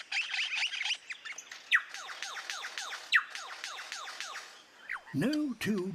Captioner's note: mimics mechanical sound